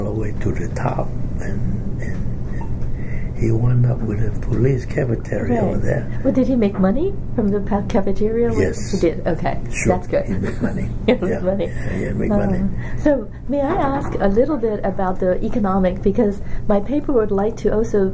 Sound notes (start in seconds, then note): 10.3 laughs